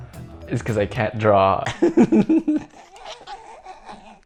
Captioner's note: laughs